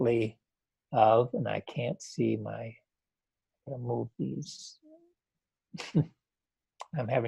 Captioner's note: chuckles